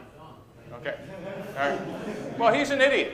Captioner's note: laughter